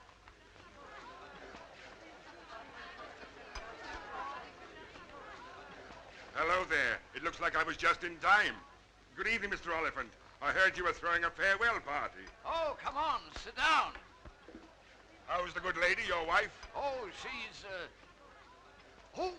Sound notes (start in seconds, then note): 2.6 patrons chattering